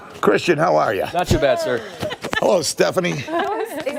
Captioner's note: laughter